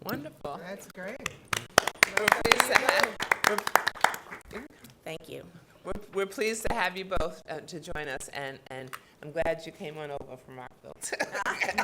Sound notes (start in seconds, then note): 1.1 council members clapping; 11.0 laughs